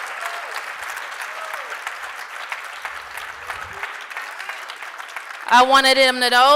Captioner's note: applause